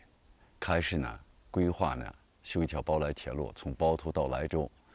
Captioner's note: speaking chinese